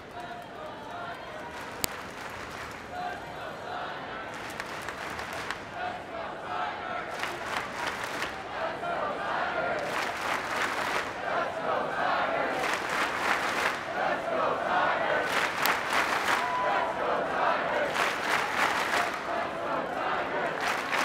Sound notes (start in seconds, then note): 7.1 clapping; 9.7 clapping; 17.7 clapping